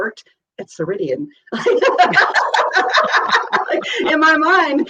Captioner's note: laughs